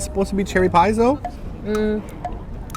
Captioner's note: ticking; ticking continues